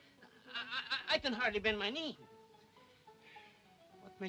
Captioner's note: stammering